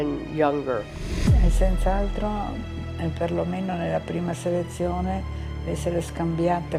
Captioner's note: speaking in foreign language